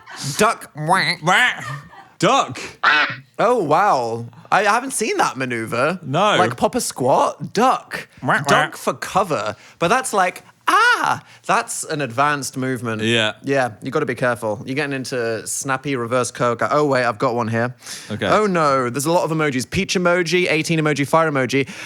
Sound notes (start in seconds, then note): 2.8 quacking sound effect; 2.8 quacks